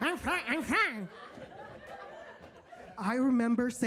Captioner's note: audience laughs